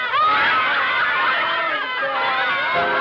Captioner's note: laughs; upbeat music